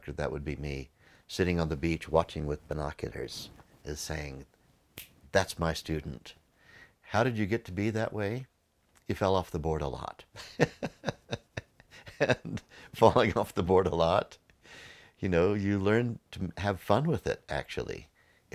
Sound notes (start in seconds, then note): 10.4 laughs